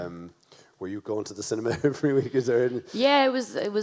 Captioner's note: chuckles